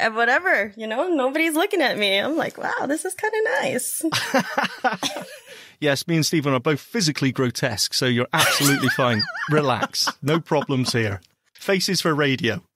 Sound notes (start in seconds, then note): 4.1 laughs